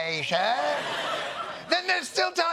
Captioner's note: laughter